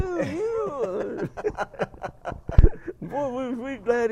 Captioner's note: both laugh